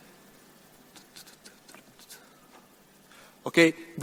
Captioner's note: hums